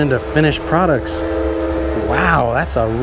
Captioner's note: train horn blares